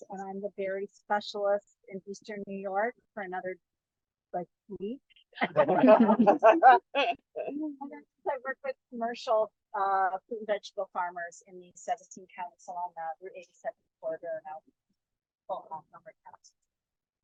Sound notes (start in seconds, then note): 5.4 laughter